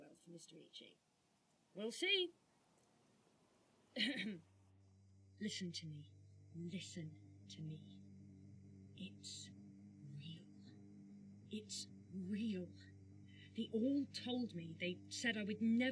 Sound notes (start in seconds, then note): 4.0 nyx coughs; 4.8 ominous humming